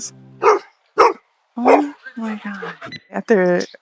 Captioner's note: dogs not on a leash barking